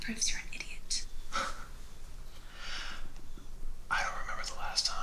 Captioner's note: Theo chuckles